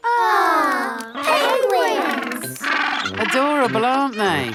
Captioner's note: penguins chatter